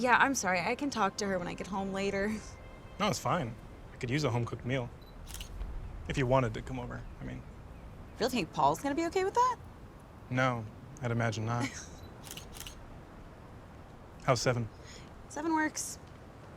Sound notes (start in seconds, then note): 11.5 chuckles